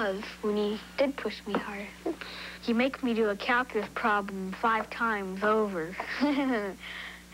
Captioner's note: giggles